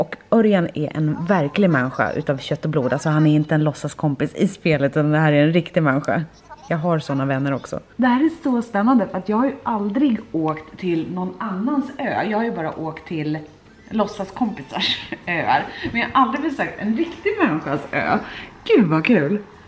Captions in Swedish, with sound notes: Örjan är en riktig människa av kött och blod, och finns alltså inte bara i spelet. Han är en riktig människa. (skratt) Jag har sådana vänner också. Det här är så spännande, för jag har aldrig åkt till någon annans ö. Jag har ju bara åkt till låtsaskompisars öar. (skratt) Men jag har aldrig besökt en riktig människas ö! Gud, så kul!